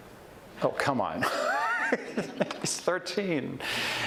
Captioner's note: chuckles